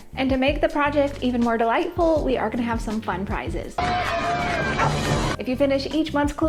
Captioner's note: cheers & Applause